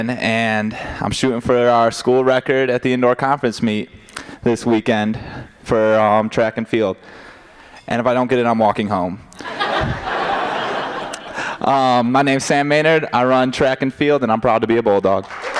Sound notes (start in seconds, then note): 9.4 laughter